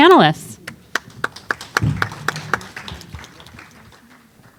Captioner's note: applause